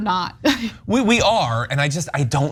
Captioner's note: laugh